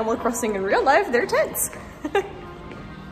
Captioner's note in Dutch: lach